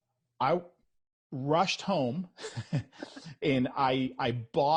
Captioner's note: chuckles